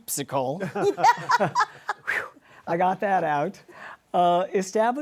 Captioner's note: laughter